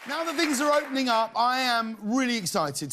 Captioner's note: cheers and applause